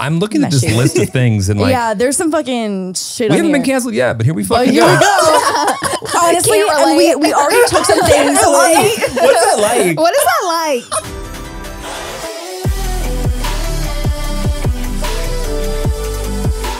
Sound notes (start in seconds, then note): 4.6 everyone laughs; 10.8 upbeat music plays